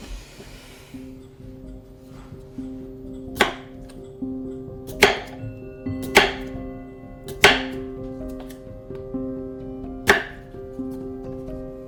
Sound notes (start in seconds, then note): 3.4 knife thuds; 10.4 soft music